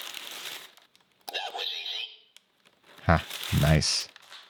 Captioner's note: voiceover